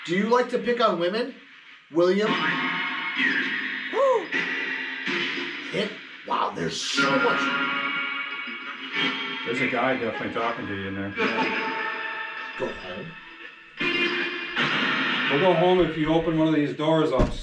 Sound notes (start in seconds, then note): 2.8 radio noise echoing; 6.3 radio noise echoing; 12.0 radio noise echoing